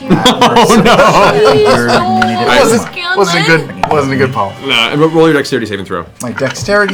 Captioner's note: laughing